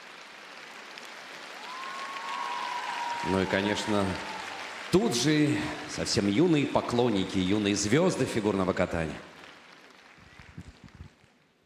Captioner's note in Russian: аплодисменты